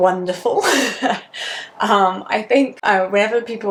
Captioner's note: laughs